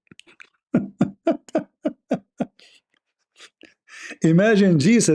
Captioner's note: Ketawa